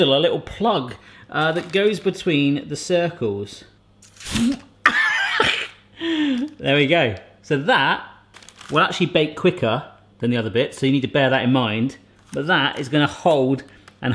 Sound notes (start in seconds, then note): 4.2 blowing straw; 5.2 laughing